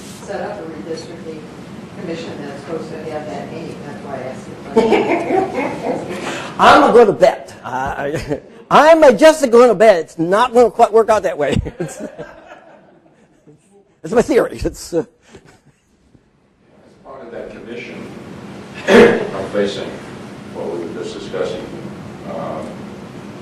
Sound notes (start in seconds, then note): 4.8 laughing; 11.4 group laughing